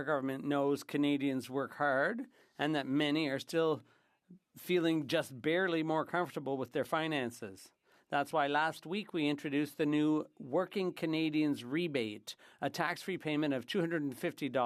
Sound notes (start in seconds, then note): 3.7 speaking French